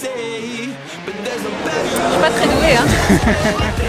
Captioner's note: laughing